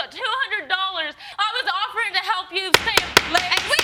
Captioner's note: banging gavel